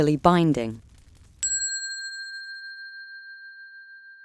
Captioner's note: bell dinging